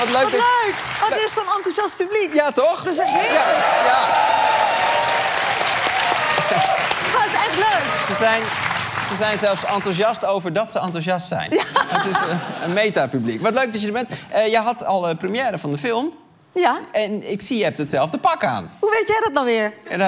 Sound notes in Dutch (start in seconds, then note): 2.9 applaus en gejuich